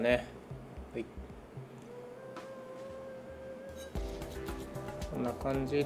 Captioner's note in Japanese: 刃先を研ぐ音